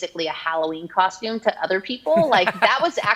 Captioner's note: laughs